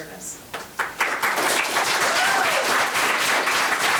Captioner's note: members applauding